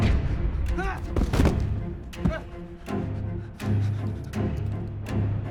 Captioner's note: body thuds; man gasps; suspenseful music